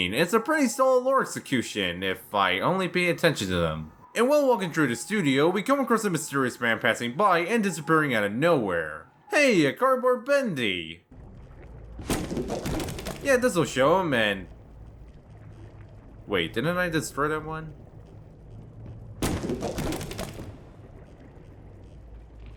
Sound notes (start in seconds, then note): 12.1 breaks cardboard bendy